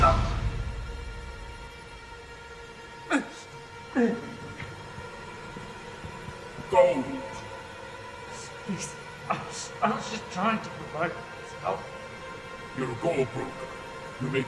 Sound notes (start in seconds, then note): 0.1 man groaning; 3.1 man grunting